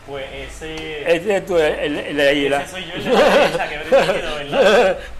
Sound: laughs

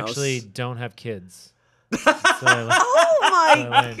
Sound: laughing

